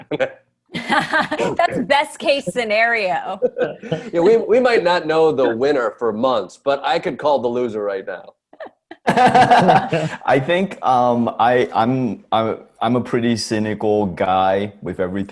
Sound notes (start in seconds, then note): 0.8 Jordan, Roy, & Desi laugh; 9.0 Ronny laughs